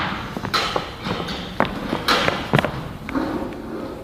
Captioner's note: door opens